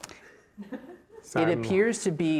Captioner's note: laughing